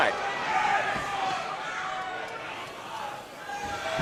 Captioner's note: crowd shouting